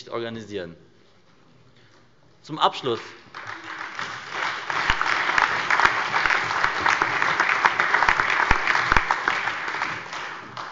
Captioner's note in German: Allgemeiner Beifall